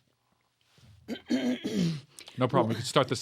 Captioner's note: clears throat